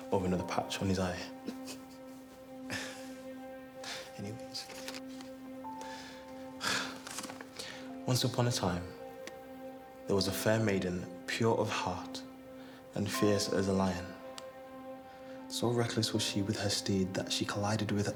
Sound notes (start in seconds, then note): 1.3 Dana laughing; 1.4 Alex laughs; 6.5 exhales